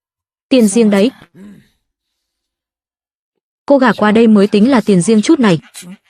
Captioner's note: hắng giọng